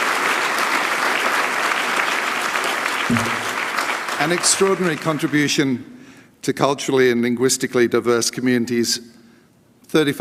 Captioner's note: applause